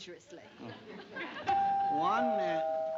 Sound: doorbell rings

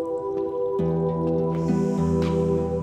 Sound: sighs

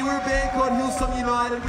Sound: cheering

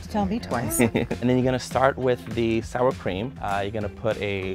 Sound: laughs

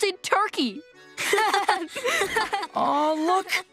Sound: laughing

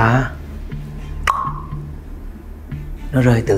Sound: click tongue

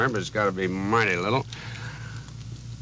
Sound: none

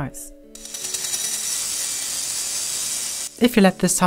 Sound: metallic scratching

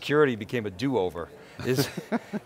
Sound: laughter

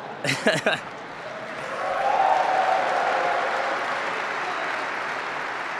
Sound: cheering

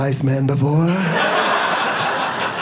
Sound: audience laughing

